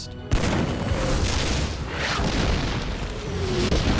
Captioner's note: shells exploding